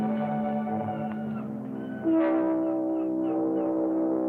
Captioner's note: seagulls squawking